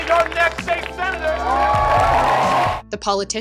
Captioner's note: crowd cheering